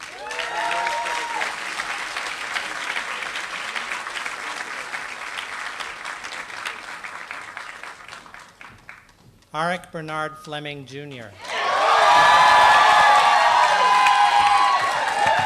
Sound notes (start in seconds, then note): 0.2 applause; 11.4 applause